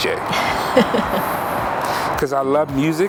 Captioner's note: laughs